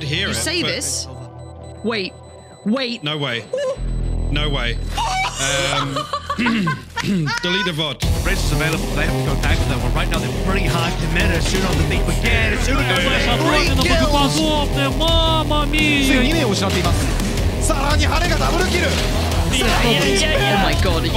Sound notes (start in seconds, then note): 5.0 laughing; 8.6 intense music; 13.4 speaking foreign language